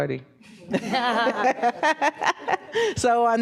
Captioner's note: panel members laughing